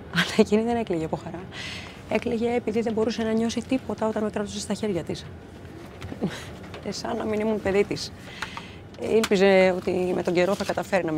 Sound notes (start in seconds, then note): 0.1 Vanina chuckles; 1.0 Vanina speaking foreign language; 6.1 Vanina chuckles; 6.7 Vanina speaking foreign language